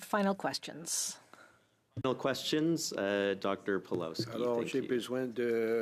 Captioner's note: speaking French